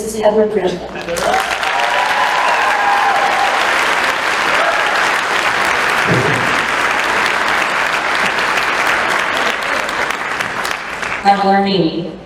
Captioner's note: applause